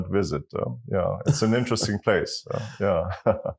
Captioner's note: laugh